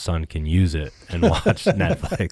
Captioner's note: laughing